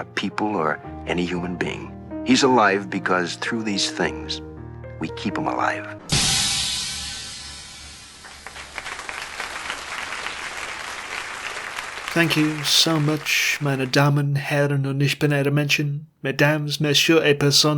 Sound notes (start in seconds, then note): 6.0 cymbal crash; 6.1 applause